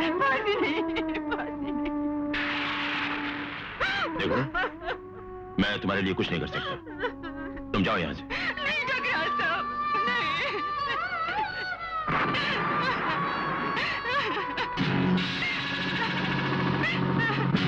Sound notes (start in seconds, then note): 0.0 sobbing; 2.3 thunder crashing; 3.8 sobbing; 10.3 sobbing; 11.1 crying